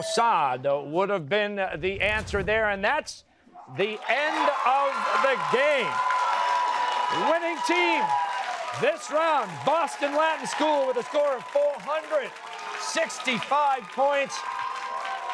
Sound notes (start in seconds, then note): 5.8 cheers and applause